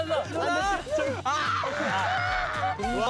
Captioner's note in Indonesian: Menangis